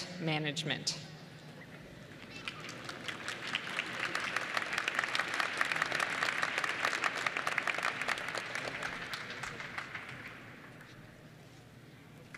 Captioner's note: applause